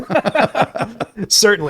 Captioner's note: both laughing